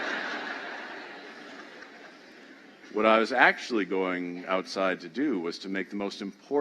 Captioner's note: laughter